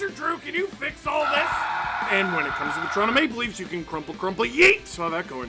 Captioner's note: screaming